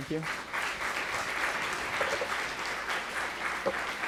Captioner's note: clapping